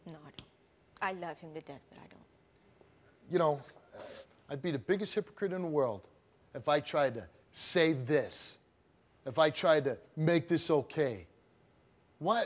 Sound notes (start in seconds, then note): none